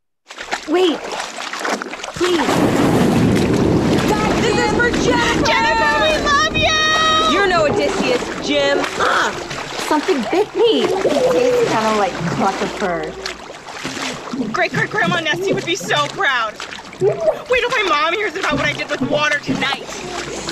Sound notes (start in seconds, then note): 0.2 splashing; 16.9 Jim screams underwater